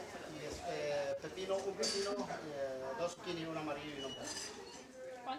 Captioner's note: speaking Spanish